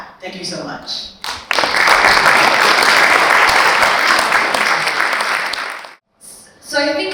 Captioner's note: audience applauding